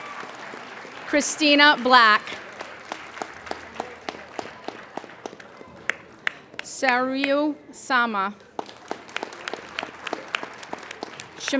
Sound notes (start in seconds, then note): 2.8 applauding; 8.3 applauding